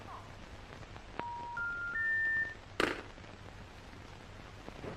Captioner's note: busy signal beeping